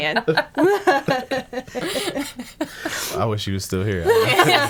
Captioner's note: laughing